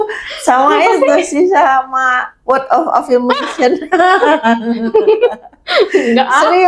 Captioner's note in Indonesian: tertawa; tertawa